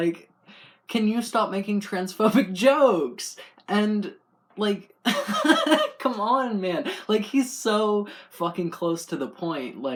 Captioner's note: laugh